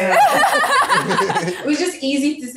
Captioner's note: everyone laughs